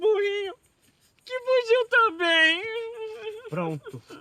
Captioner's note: crying